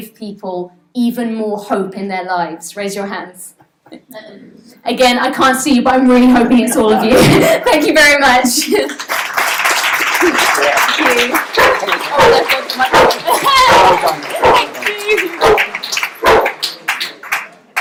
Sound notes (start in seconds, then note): 7.9 laughs; 9.2 applause and guide dogs barking; 17.1 laughs